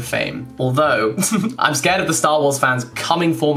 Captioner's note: giggling